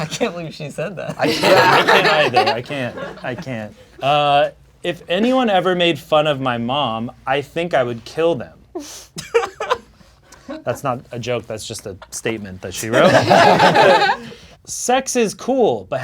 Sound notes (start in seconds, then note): 9.2 laughing; 12.9 crowd laughing